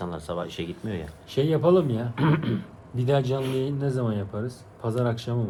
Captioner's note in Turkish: boğazını temizler